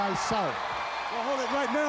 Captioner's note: crowd cheering